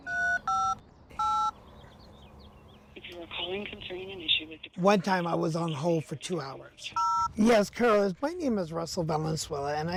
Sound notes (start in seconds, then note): 1.1 phone buttons beeping; 3.1 voice on Other End of Phone